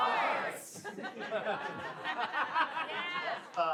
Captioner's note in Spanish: risas